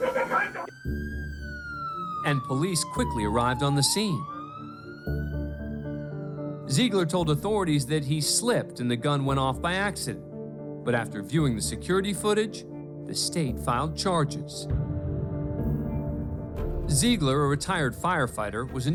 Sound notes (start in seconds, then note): 0.8 police siren blaring